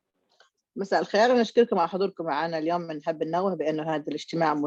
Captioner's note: speaks in Arabic